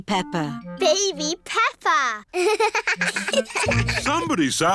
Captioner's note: both laugh